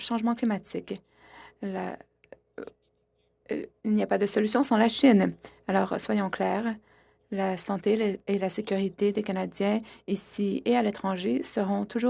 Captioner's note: speaking French